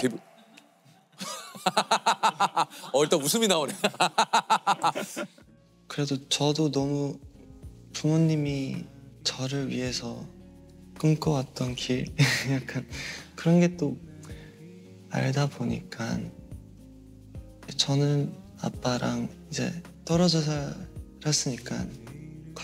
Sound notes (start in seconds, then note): 3.9 laughing